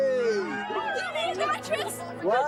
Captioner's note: girls shouting